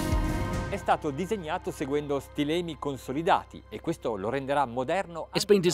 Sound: speaking in foreign language

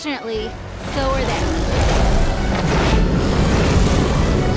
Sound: roaring

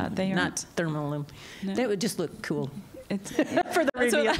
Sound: laughter

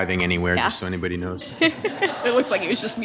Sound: laughs

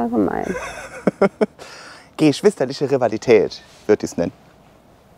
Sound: he laughs

